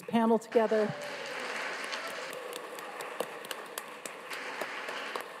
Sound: audience applauds

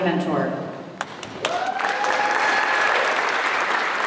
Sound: applause

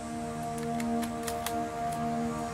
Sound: bolt clicking

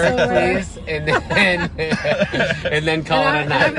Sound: laughing

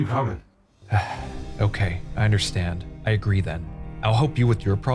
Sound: sighs

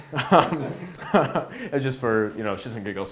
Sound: laughs

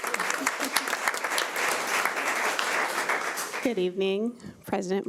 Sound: audience applauding

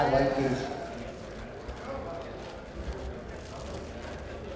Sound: people chattering

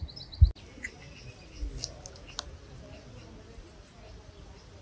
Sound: birds singing

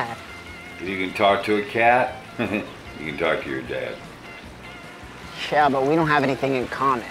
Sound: laughs

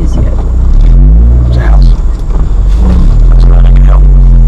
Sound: car revving

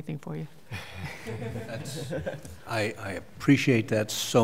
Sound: laughter

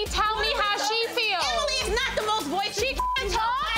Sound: beep

